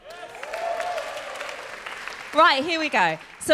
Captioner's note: applause